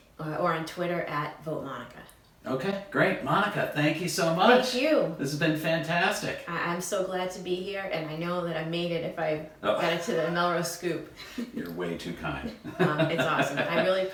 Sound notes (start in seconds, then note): 11.1 laughs